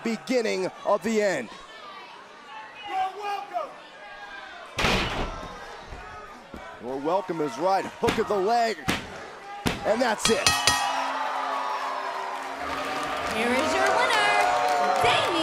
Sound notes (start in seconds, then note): 10.2 bell ringing; 10.8 crowd cheering